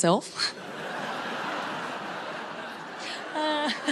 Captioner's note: crowd laughs